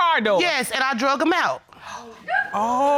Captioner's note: woman squealing